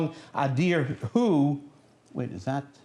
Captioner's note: non-english speech